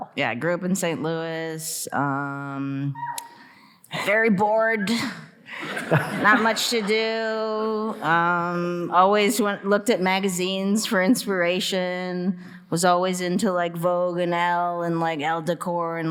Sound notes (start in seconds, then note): 3.0 audience member cheering; 5.6 audience laughing